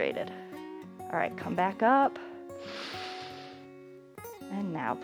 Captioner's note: inhales